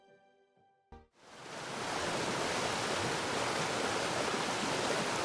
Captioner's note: water rushing